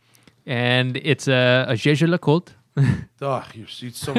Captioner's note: lauhgter